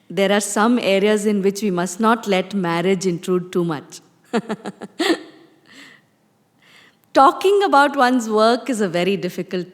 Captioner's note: laughs